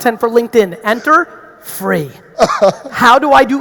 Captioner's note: laughing